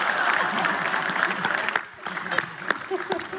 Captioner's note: audience laughs; applause; cries; applause; cries